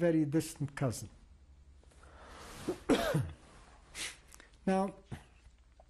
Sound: pauses for 3 seconds

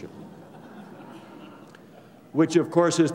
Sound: laughter

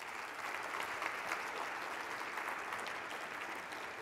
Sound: applause

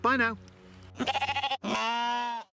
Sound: sheep bleating

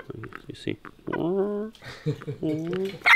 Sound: chicken clucking

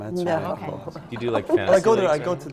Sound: laughter

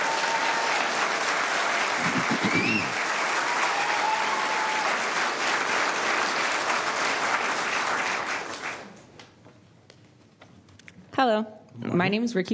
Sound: applause

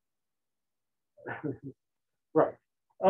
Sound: chuckles

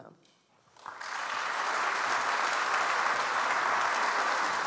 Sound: audience applauds

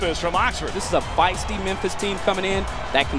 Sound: voiceover

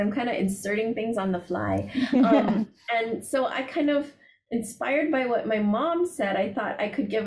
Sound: laughter

